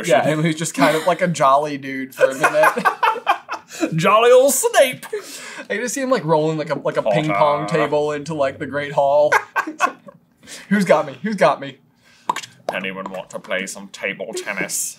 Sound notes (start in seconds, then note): 9.2 laughter